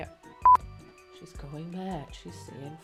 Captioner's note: beep